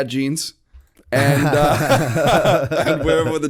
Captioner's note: laughter